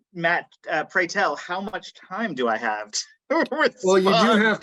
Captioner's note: laughing